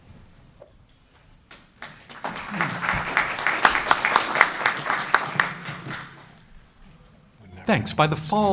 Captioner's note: applause